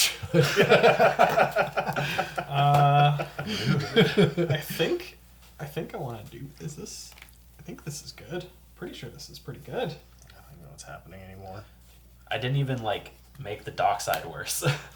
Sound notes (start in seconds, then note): 0.2 all laugh